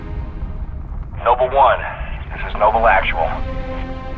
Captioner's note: radio